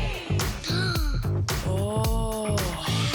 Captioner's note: gasps